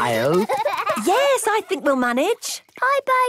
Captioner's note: giggling